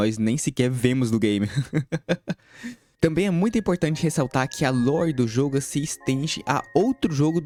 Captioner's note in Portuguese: risadas gulosas